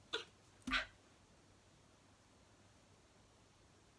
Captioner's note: grunting